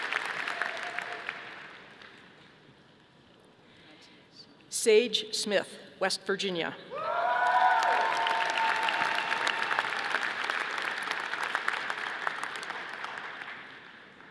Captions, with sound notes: Sage Smith, West Virginia. (audience applauding)